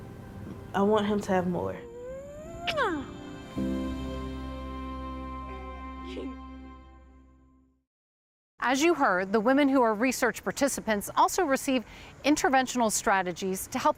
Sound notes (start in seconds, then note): 2.1 lips peck; 6.2 laughs